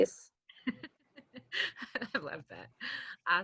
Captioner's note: laughs